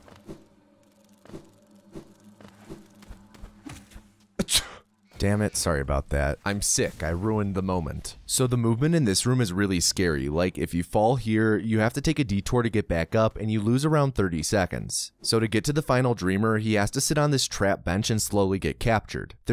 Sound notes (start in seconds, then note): 4.4 sneeze